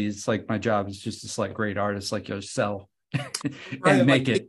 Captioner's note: laughs